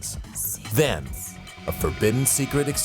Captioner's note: lady whispering "secrets"